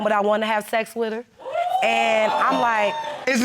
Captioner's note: crowd wooing